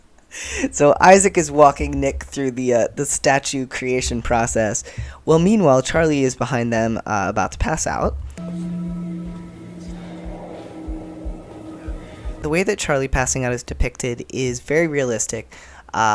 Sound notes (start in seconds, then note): 8.4 discordant music; 8.4 whooshing